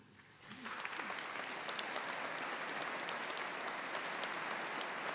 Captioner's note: audience applauding